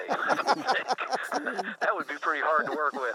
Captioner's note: laughing